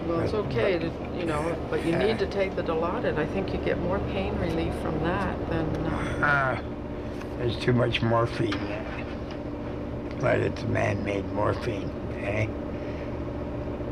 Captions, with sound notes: Well, it’s okay to, you know, but you need to take the Dilaudid. I think you’d get more pain relief from that than – [ Grunts ] There’s too much morphine in it. But it’s man-made morphine, eh?